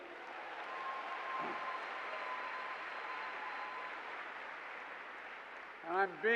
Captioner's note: applause